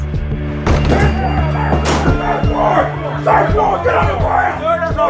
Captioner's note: bang on door, shouting